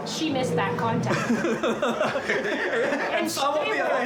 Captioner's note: laugh